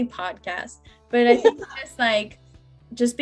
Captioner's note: laughs